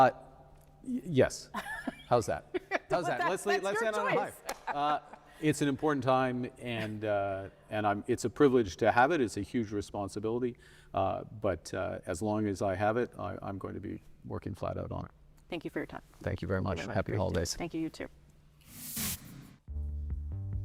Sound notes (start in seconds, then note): 5.9 laughter